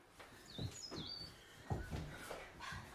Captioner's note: birdsong